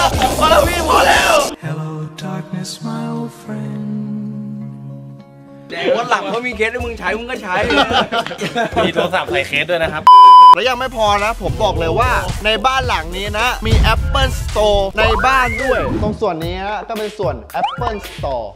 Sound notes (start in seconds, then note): 1.6 sad music playing; 7.7 laughs